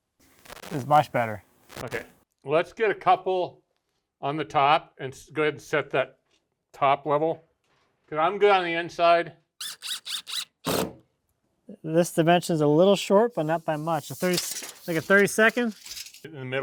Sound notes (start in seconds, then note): 9.6 drilling sounds